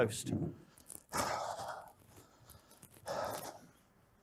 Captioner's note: loudly sighing